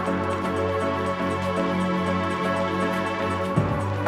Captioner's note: engine revving